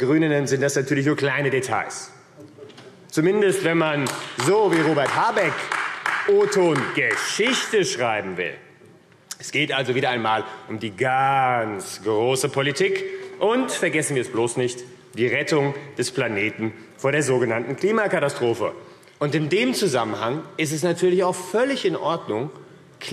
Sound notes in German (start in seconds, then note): 2.0 Beifall AfD